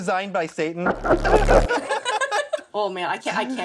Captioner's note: laughter